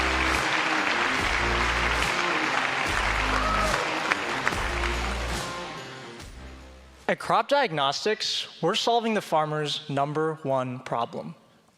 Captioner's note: applause